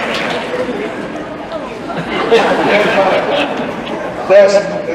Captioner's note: laughter